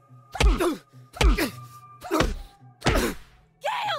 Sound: grunts; multiple punches; cries out

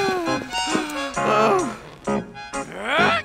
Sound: sighs

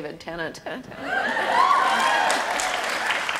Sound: audience cheers

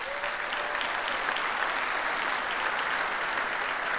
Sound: audience applauds

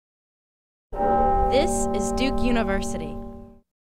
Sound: bell tolls

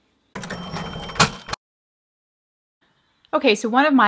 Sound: cash registers chings

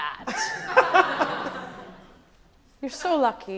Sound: audience laughing

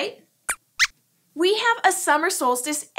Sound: squeaks squeaks

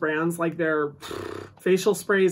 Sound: exhales loudly

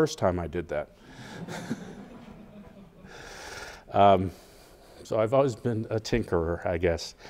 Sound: laugh

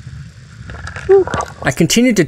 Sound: bloop

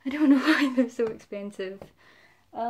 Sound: laughing

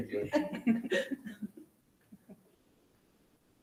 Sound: group laughs

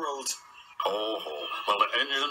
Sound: sir topham hatt laughs

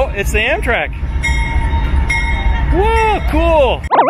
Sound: train bell; funny music

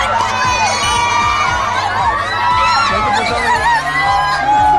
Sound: fans greet them with rousing cheers

